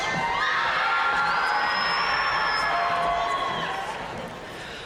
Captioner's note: audience cheering and applauding